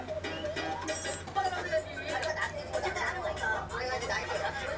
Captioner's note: laughter